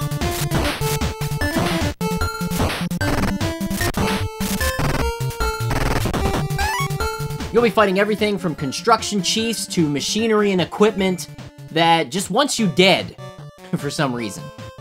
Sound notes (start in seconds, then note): 0.0 game audio